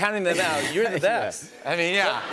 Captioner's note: chuckles